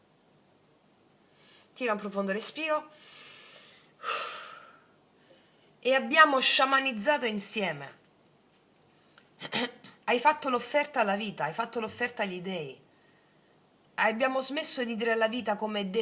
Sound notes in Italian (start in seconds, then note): 4.0 sospiri; 9.4 schiarire la voce